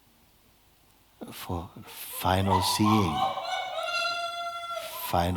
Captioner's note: screams in the background